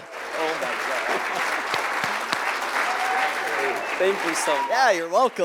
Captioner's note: applause